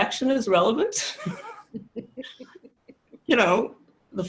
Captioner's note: many laughing